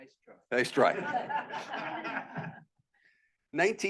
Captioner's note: students laughing